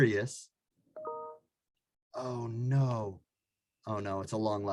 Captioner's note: computer chimes